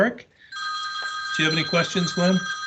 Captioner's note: phone ringing